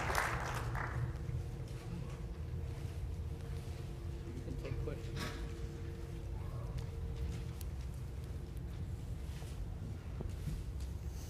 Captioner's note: applause